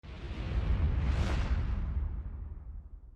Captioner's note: whoosh